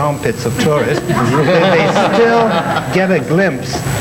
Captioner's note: everyone laughs